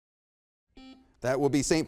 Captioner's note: buzzer beeps